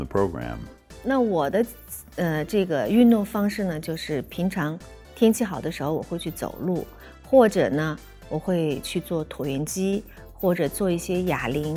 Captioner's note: speaking chinese